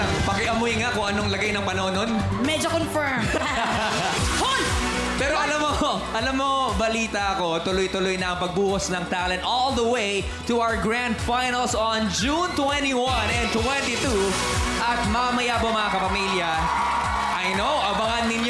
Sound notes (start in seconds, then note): 3.2 laughter; 14.2 audience cheering